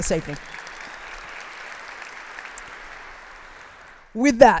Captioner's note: applause